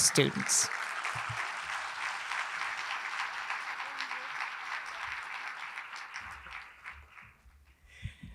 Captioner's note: applause